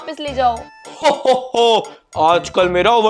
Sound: Santa laughing

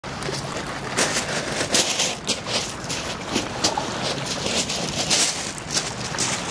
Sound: lapping water; crunching of rocks

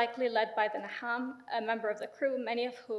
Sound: speaks in foreign language

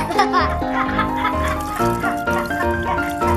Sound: laugh

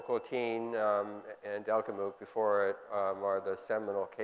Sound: speaking foreign language

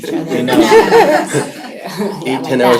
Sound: laughter

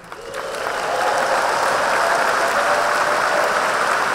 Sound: audience applauding

